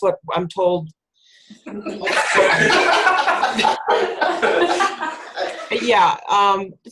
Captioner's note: laughter